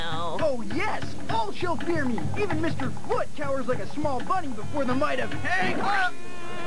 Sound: squash

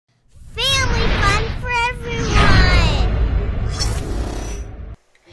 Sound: voiceover

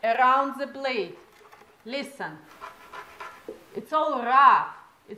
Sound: scrapping noise from inside Vitamix pitcher

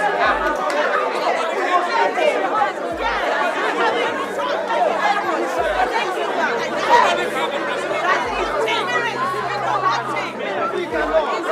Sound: distinct chatters

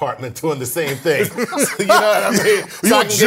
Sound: laugh

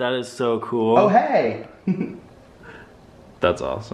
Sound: chuckles

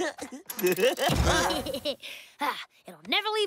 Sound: giggling; laughing

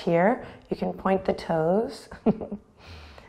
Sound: chuckles

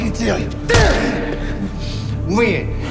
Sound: Douda grunting

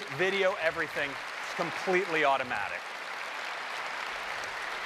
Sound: applause

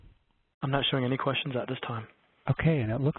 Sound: voiceover

